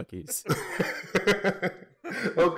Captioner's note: laughter